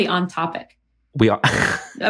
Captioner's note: chuckles